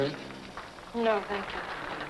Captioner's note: crowd applauding